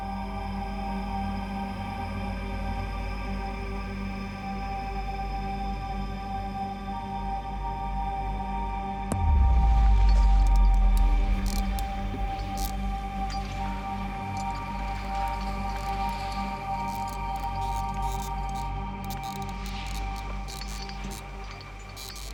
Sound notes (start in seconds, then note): 10.4 ropes creaking, pulleys rattling; 14.3 clanking